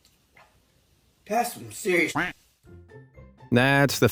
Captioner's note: duck quacks